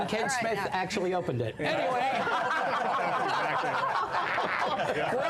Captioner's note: laughter